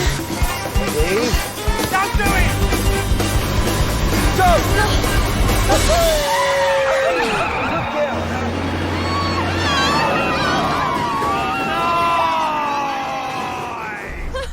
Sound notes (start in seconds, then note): 6.7 Alice laughing; 14.3 laughing